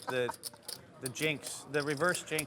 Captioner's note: laughs